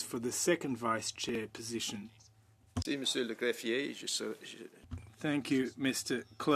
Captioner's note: speaking French